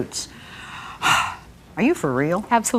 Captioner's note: sighing